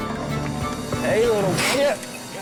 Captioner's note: hisses